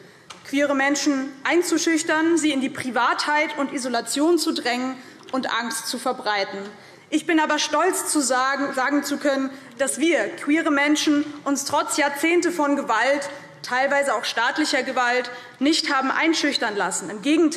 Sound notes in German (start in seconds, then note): none